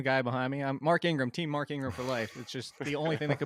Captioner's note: guys laughing